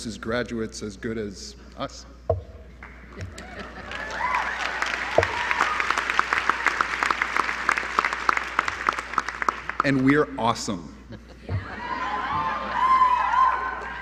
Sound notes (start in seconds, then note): 10.7 applause; 11.0 laughter